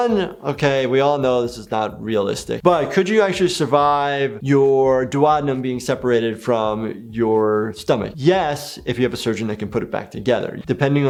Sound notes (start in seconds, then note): none